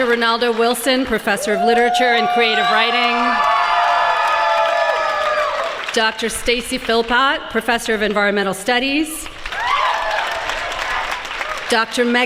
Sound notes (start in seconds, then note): 2.9 applause